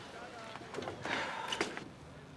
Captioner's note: sighs